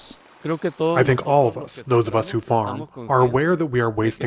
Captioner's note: through translator